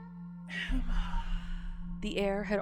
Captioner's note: ghostly voice